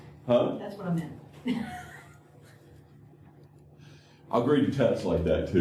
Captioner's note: laughter